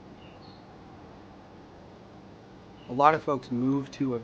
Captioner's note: birds chirping